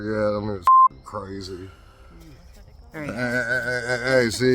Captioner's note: beep